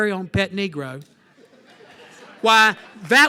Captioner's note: laughter